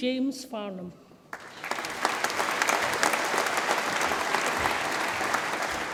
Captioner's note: audience applauds